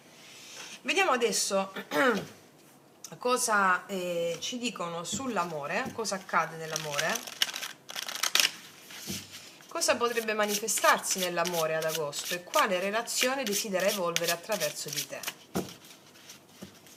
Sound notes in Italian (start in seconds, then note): 1.8 schiarire la voce